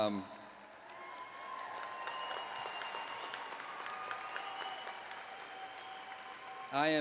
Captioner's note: applause and Cheering